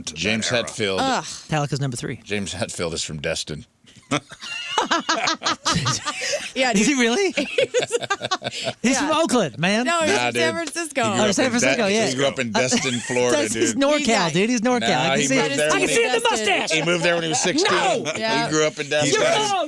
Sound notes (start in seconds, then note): 4.0 laughing